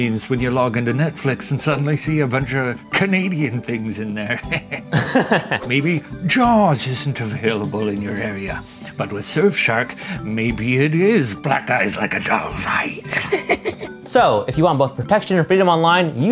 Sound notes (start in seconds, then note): 4.2 laughs; 4.3 laughs cheekily